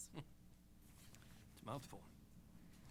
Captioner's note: chuckles